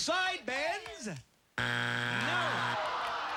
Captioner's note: buzzer